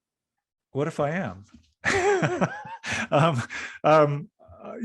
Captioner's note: laughing